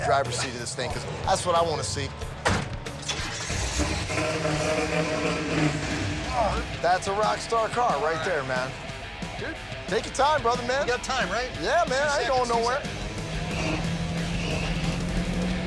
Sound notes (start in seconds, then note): 3.0 engine starts; 3.7 engine revving; 13.4 engine revving